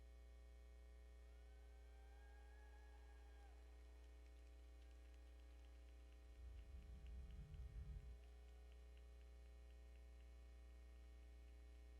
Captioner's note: audience faintly cheer and applaud